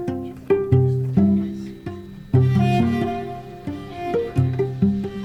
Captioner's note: machine whirring